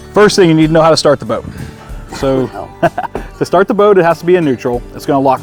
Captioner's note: chuckling